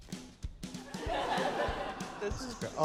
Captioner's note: laughter